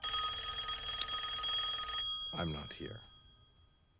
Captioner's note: telephone rings